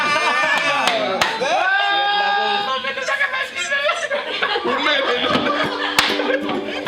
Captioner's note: laughing, clapping; all yelling, cheering